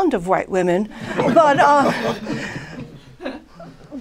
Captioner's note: laughter